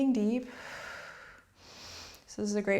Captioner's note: exhales; inhales